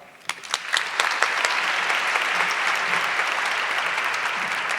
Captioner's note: audience clapping